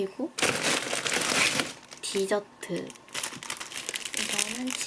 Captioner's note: crisp crisp